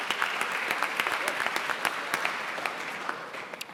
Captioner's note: applauding